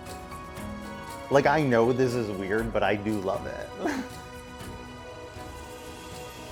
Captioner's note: laughs